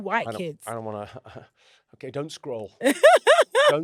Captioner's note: chuckles